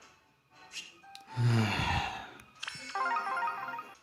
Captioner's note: deep sigh